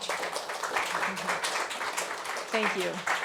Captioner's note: people clapping